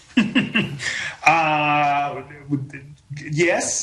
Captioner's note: laughing